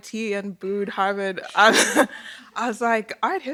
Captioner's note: laughter